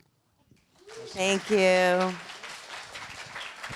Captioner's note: applause